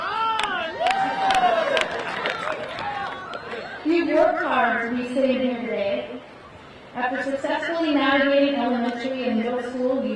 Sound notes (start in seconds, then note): 0.0 crowd cheering; 0.1 crowd applauding